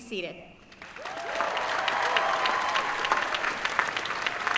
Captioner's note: applause